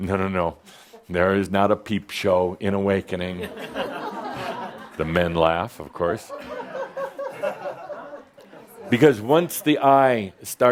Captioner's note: some chuckles